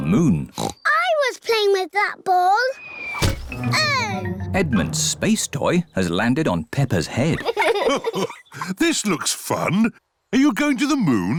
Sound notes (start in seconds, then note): 0.5 oinks; 3.1 thudding; 7.2 chuckles